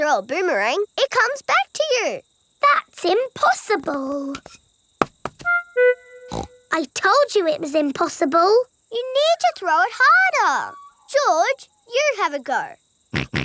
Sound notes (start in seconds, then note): 6.3 snorts